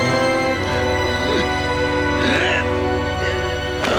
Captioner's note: grunting